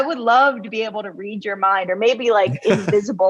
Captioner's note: laughs